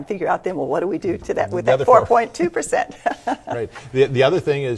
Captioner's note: laughs